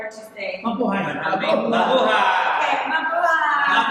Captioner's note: foreign language